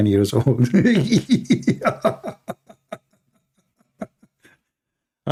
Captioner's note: Ketawa